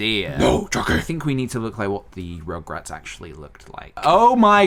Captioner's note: demonic voice; normal voice